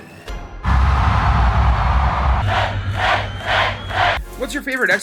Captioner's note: cheering; crowd